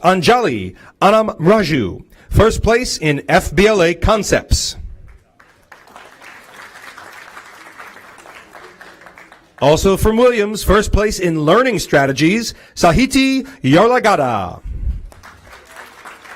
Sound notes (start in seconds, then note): 3.0 applause; 15.0 applause